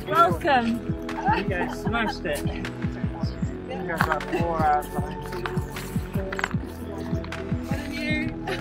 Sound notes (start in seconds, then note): 1.1 people talking to each other